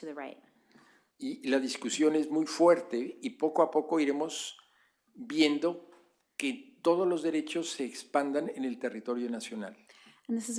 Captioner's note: speaking spanish